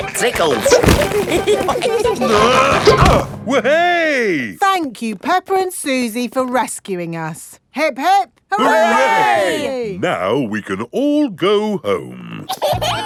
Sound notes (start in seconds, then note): 0.1 all giggling; 2.2 grunting